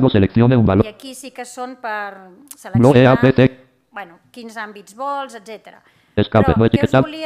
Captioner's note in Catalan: veu robòtica